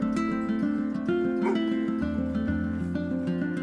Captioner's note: dog barks